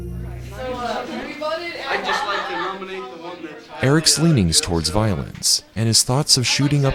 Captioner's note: students chattering